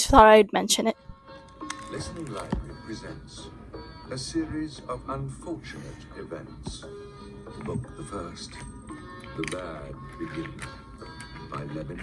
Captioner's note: "The Bad Beginning" audiobook playing in the background